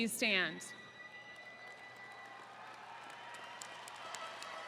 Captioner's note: attendees cheering